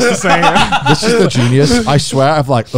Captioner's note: laughs